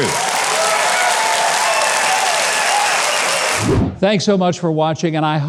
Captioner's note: audience claps and cheers